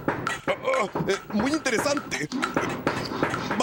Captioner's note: sound of a hammer banging